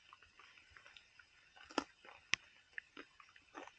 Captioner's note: raining + chewing